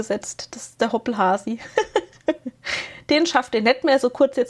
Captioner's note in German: gelächter